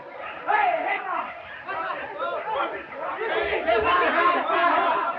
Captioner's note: all chattering